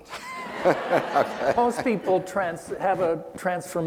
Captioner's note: laughing